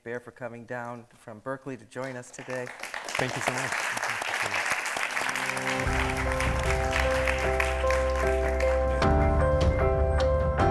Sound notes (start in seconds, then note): 4.8 audience applauding; 5.0 bright music